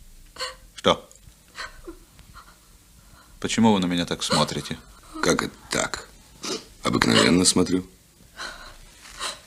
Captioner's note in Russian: вздыхает